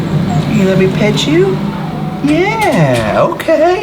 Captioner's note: dog whining